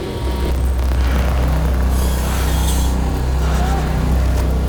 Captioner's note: loud electric sounds